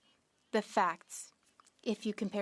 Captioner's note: speaking French